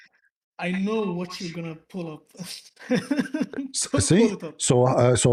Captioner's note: laughter